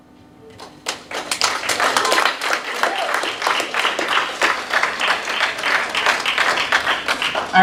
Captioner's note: clapping